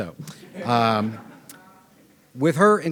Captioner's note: audience laughing